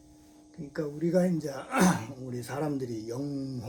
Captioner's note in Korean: 목을 가다듬음